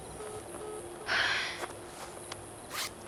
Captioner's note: beeping; sighs